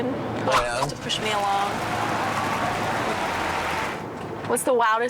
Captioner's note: cheering crowd